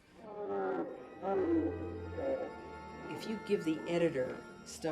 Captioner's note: guttural growling